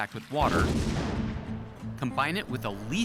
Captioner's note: explosion